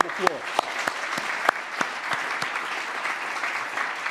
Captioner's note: audience claps